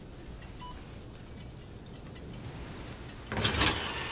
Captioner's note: machine beeps; metal clanking